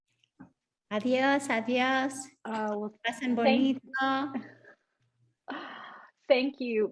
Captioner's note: Sandra speaking Spanish; laughs